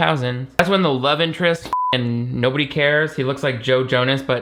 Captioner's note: beep